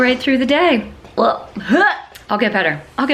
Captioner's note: gagging